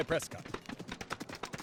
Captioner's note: horses gallop